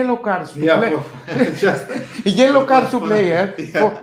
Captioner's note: laughs